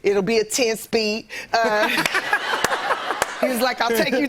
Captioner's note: laughter